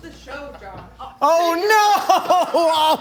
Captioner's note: laughing